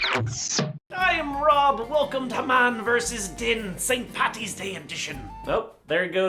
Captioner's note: again, over-the-top Irish accent